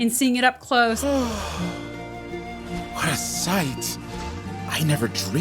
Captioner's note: gasps